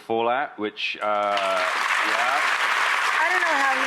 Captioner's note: audience applause